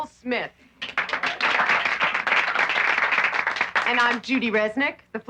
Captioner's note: applauding